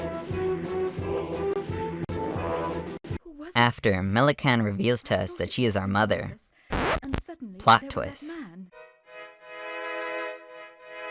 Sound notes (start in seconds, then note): 0.0 victorious Music; 6.7 record Scratch; 8.7 emotional Music